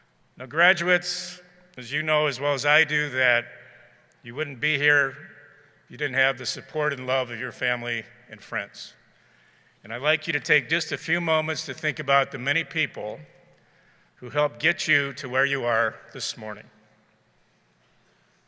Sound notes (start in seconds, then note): none